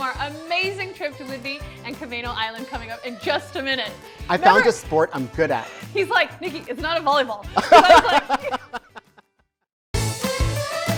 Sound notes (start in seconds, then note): 7.5 laughs; 10.0 upbeat music